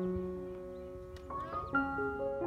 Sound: birds singing

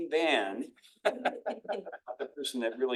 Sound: attendees laughing

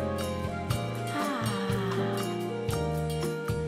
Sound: sighs

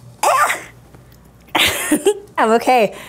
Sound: laughs

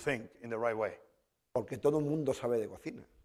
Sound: speaking spanish

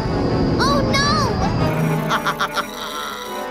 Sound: laughing

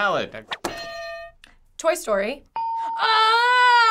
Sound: hitting bell; ding

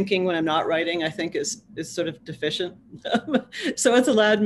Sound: laughs

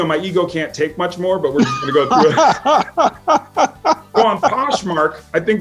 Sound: laughing

